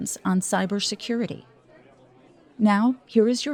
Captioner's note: people chattering